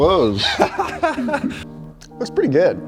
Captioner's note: laughing